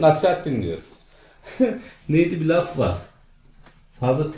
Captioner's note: laughing